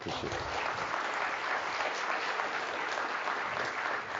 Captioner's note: audience applauds